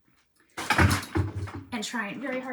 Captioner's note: objects clattering